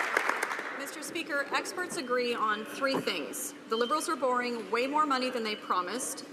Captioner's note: some Applause